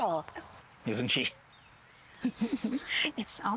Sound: chuckling softly

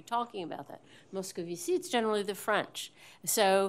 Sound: french

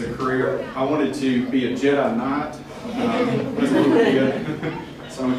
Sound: laughter

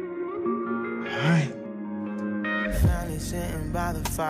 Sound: hesitantly; R&B music plays

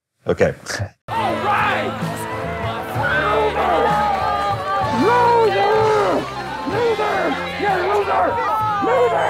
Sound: screaming

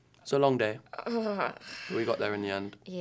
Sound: Josephine groans

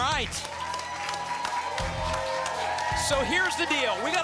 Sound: applause and cheering cont

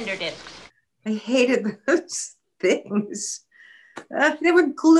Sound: laughing

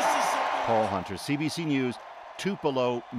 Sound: cheers and Applause

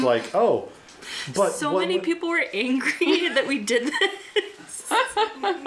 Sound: laughing

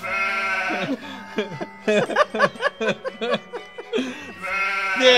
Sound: laughs

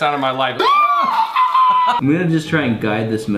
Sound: screeching

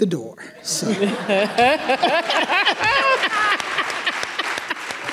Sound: everyone laughing

